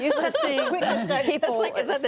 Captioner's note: laughter